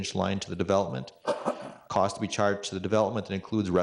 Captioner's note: clears throat